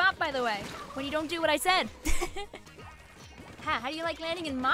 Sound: laughs

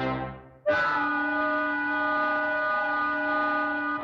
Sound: whistles Blow

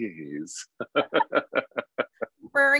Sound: laughing

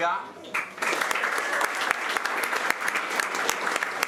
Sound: applause

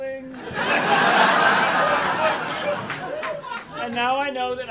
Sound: audience laughing

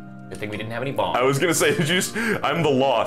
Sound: laughing

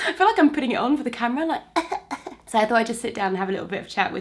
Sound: cough cough

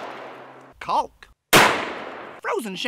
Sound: gun fires

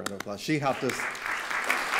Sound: applause

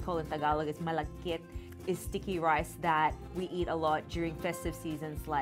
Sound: speaks in Tagalog

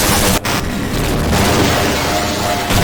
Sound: boom

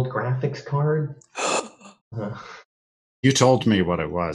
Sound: gasp

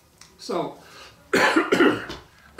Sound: coughs

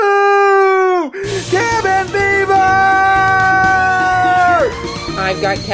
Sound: yells

